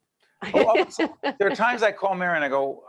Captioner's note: laughing